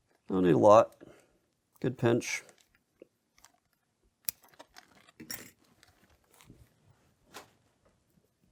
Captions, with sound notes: I don't need a lot. Good pinch. (scissor clips)